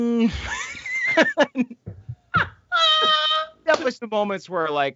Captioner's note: all laughing